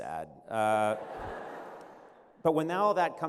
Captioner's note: laughter